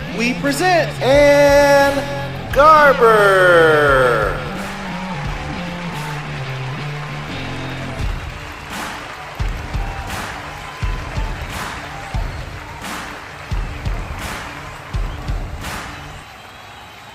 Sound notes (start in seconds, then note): 4.7 people cheering